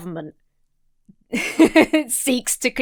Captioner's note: laughs